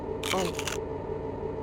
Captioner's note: nom